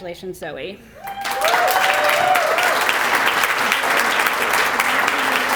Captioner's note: applause